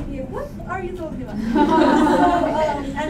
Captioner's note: laughter